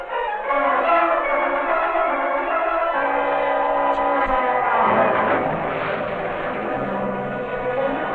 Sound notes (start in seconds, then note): 4.9 water splashing